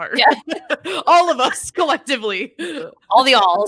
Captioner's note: laughing